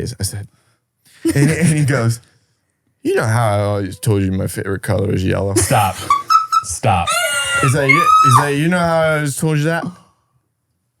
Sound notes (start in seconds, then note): 5.6 laughing